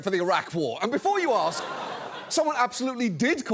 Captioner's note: audience laughs